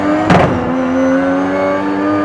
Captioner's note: car bumps object